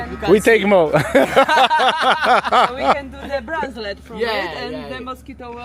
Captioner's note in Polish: śmiech